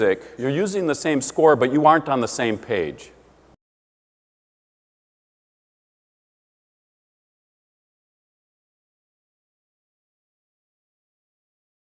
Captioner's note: silence